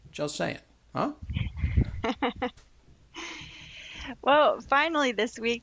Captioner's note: laughing